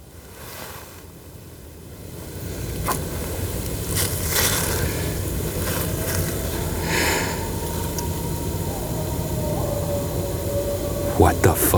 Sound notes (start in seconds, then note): 5.9 howling